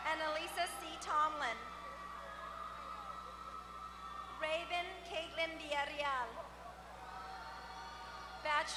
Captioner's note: applause; applause